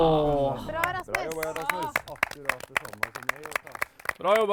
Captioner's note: applause